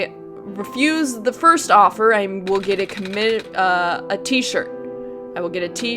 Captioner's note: stutters